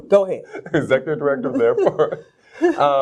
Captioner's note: laughs